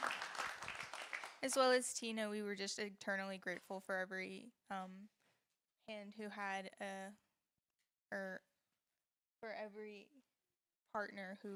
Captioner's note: applause